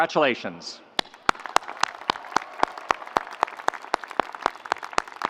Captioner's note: audience applauds